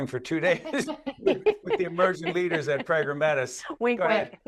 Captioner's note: all laughing